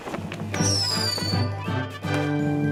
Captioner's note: sparklers whistling